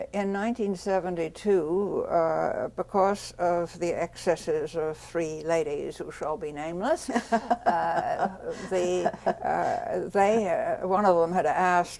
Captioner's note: laughs